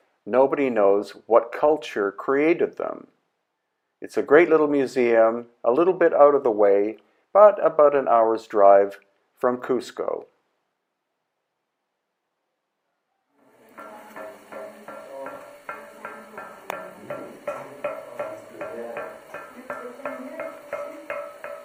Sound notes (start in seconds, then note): 13.8 stone thudding; 15.3 group murmuring